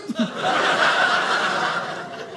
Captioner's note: audience laughing